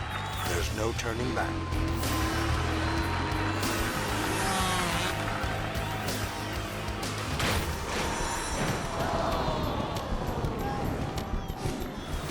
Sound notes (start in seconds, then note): 0.0 crowd cheering; 7.4 metal crashing; 10.0 crowd